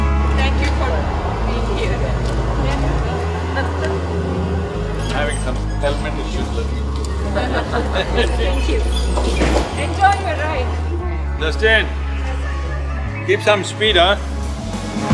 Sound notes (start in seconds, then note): 6.6 laughs